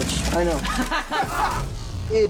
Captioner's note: fanslaugh